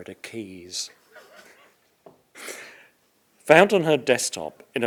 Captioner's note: all laughing